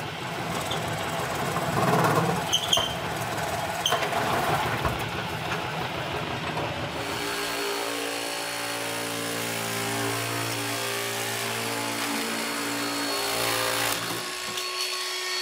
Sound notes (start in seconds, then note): 7.5 noise of saws